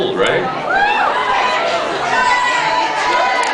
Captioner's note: scattered cheers